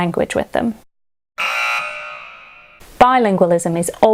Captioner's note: buzzer blaring